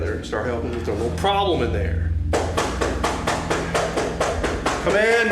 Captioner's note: officer knocking